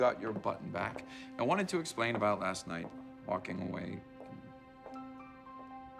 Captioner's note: voice trails off